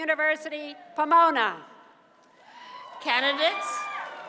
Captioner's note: cheers and applause